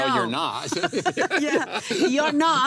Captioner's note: laughs